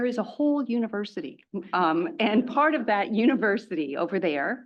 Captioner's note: laugh